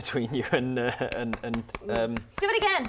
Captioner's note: clapping